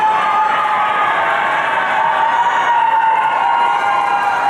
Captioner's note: audience cheering